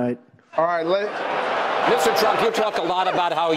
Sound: applause

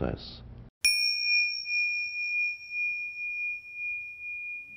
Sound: bell chiming

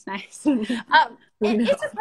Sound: both laugh

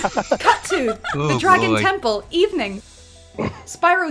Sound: laughter; laughter

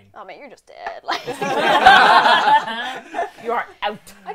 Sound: laughter

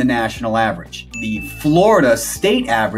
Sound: bell dings

